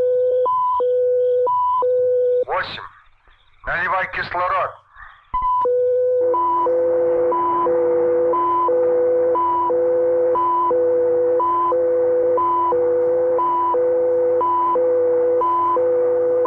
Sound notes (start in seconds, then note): 2.2 soldier speaking in Russian; 5.1 machinery beeping and whirring